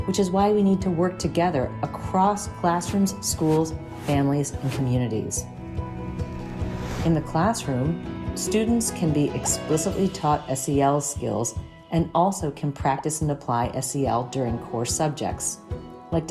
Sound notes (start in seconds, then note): 5.6 gentle upbeat music; 5.9 graphic whooshes